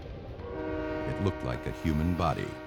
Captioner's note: train whistle